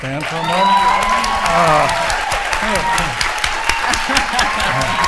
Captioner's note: audience applauding